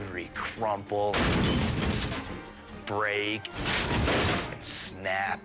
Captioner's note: Jeep crashing